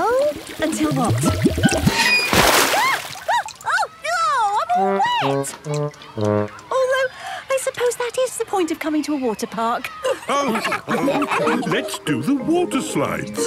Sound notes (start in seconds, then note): 9.8 all laughing